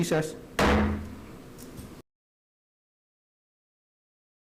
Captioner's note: gavel banging